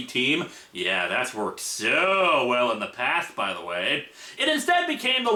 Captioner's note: sarcastic tone